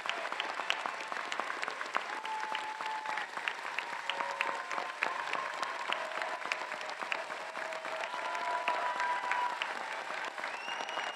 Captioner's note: applause